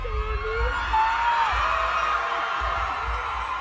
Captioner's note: fans screaming